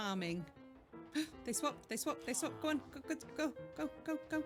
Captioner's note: gasp